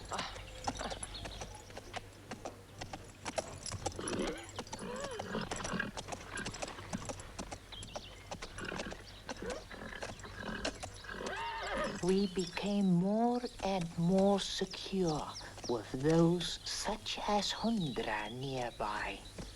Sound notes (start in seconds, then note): 1.2 chuckles; 3.9 horse whinnies